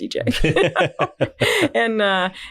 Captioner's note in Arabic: كلاهما يضحك